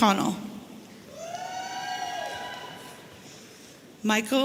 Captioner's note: audience cheering